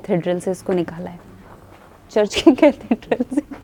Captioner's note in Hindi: हँसते हुए